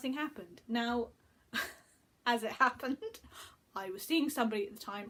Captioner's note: chuckles